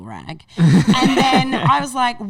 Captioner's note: laughing